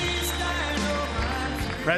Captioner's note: applause